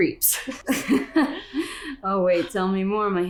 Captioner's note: both laugh